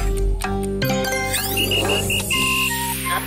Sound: whistling

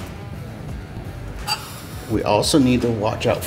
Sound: metal brushing metal

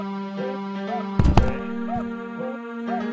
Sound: swinging Door Opens

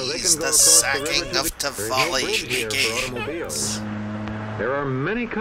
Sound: Jim makes distant screaming/battle noises

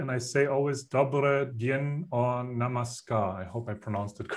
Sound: speaks foreign language

